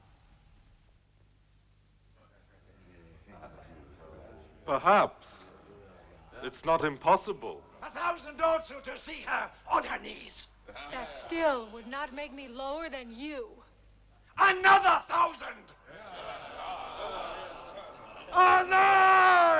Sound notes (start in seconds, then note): 16.0 chieftains clamoring